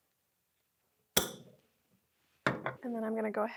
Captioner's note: jar clicking